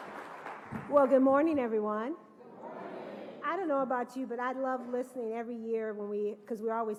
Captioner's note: applause